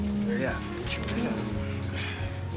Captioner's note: Leek mutters